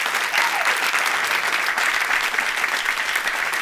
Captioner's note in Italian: Applausi